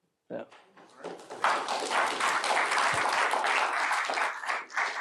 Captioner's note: applause